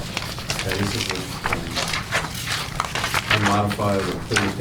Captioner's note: papers rustling